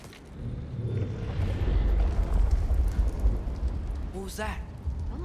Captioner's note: large growl